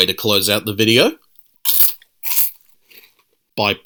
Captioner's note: crunch